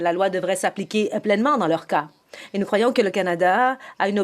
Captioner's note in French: voix de l'interprète